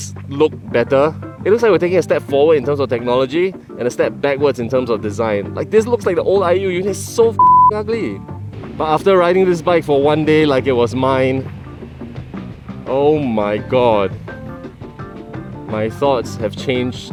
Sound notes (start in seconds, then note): 7.4 beep